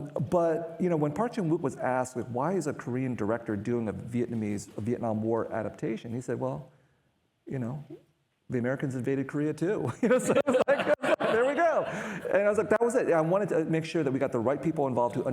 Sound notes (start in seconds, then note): 9.9 all laughing